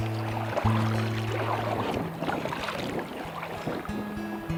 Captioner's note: water rushing